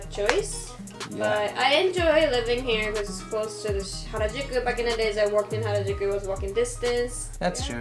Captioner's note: japanese words